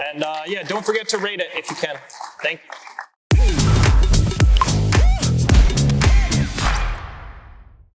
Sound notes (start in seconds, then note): 1.6 applause